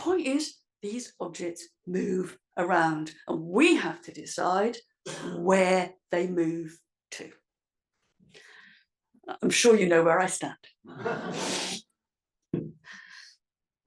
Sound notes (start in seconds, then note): 11.0 laugh